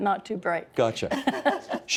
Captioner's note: laughing